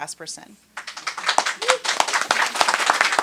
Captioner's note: applause